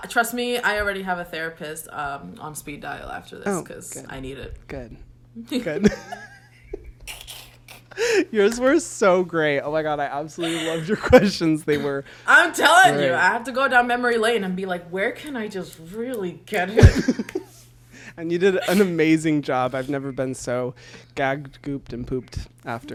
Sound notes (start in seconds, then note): 5.5 both laugh; 16.7 both laugh